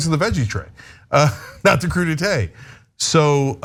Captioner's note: laugh